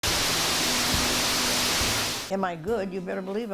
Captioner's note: water rushing